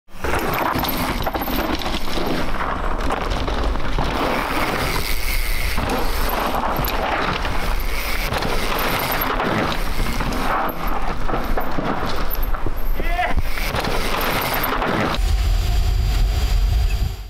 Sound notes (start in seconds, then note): 0.0 dirt rumbles; 3.0 bicycle gears click